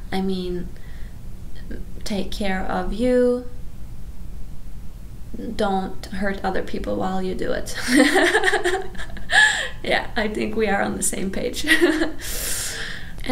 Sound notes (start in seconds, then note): 7.9 laughs; 12.6 laughs